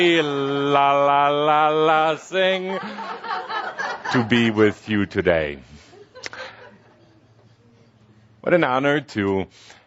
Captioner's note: laughter